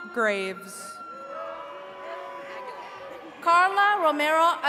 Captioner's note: attendees cheering